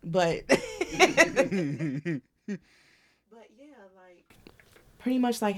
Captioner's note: laughing